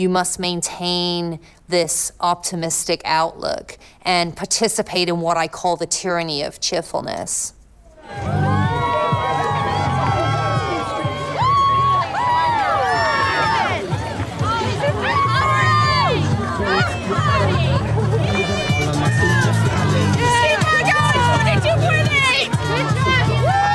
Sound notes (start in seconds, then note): 13.6 cheering; 19.3 live music